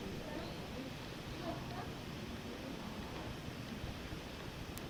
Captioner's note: crowd chattering